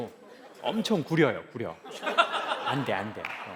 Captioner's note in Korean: 웃음